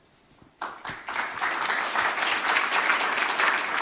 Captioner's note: applause